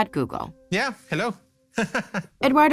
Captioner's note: laughs